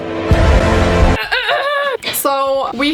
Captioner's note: clears throat